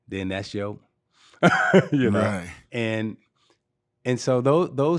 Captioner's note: laughing